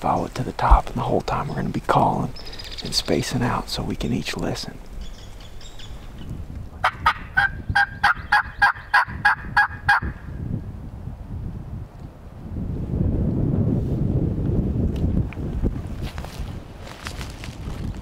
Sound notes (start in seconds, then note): 6.9 calling; 13.0 wind